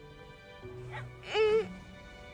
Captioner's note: moaning